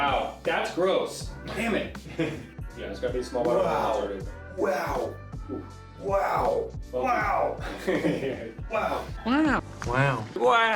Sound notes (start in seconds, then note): 2.0 laughing; 7.3 laughing